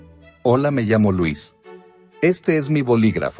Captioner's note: in Spanish